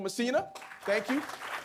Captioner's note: audience clapping